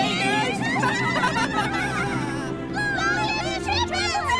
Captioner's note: all laughing